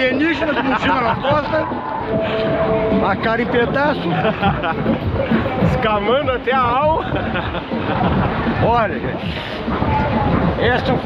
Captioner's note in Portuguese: risadas